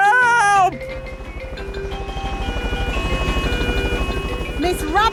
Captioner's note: emergency siren sounding